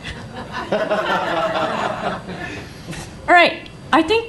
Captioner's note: laughing